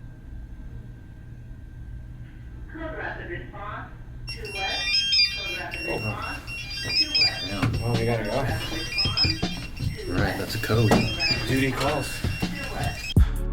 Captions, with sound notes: - [Radio Chatter] Code blue respond 2 west - We gat to go - Alright it's a code - Duty calls.